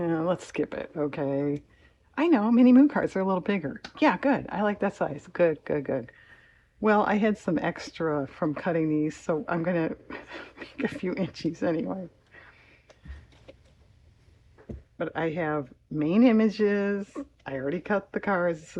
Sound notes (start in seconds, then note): 12.9 laughs